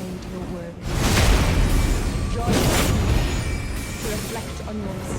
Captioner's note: mythical beeping chiming